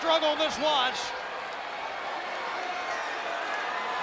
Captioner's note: crowd yelling